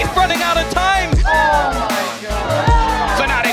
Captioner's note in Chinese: 隊伍歡呼